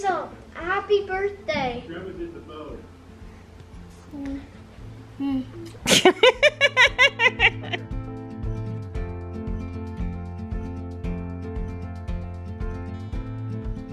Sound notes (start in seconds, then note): 5.4 laughs; 8.2 serene music